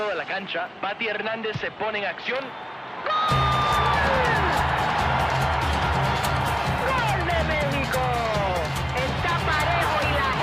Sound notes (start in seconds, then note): 4.7 crowd cheers